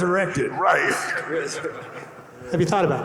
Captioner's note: panelists chuckling